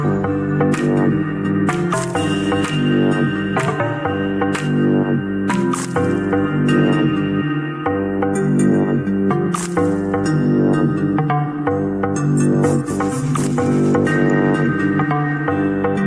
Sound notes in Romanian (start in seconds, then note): 4.5 Aplauze